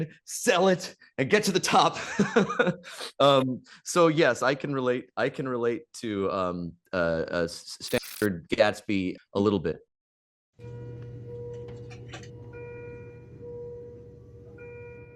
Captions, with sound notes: "sell it, "and get to the top?" (Professor Greenlight laughs) So yes, I can relate. I can relate to Stanford (audio glitches) Gatsby a little bit. (medical alarm blares)